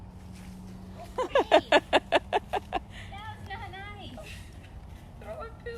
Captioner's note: laughter